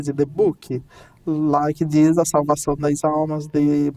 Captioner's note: speaking in Portuguese